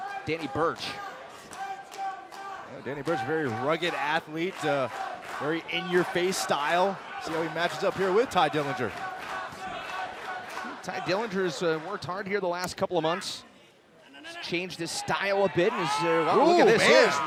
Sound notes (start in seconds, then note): 10.9 crowd chatter